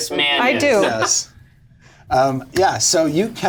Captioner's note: all laugh